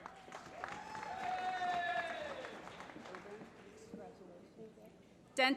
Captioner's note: applause